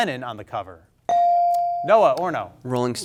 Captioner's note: bell sounding